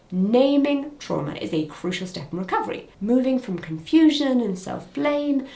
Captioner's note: none